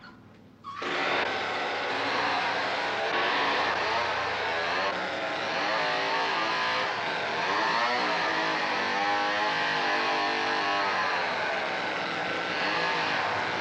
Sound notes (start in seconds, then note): 0.5 chainsaw motor whirs